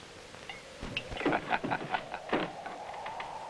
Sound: laughter

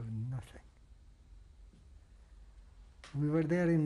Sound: pauses for 3 seconds

